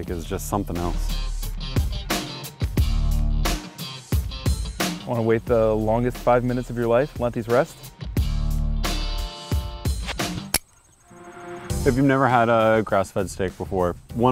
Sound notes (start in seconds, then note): 10.5 click